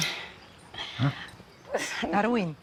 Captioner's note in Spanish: Risa nerviosa